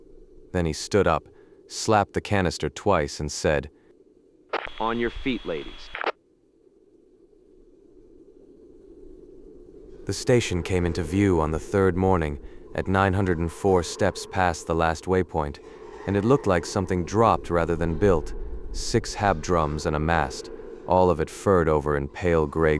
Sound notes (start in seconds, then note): 7.6 wind gives way to a low interior hum